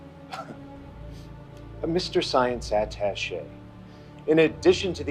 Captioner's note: scoffs